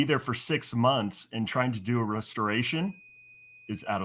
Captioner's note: timer beeping